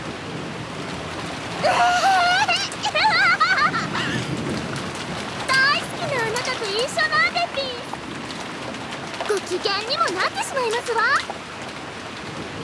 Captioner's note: giggle